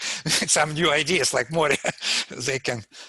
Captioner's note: laughs; laughs